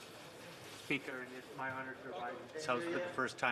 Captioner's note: speaking French